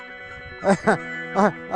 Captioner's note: laughs